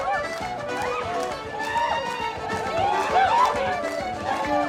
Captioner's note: crowd cheering and hollering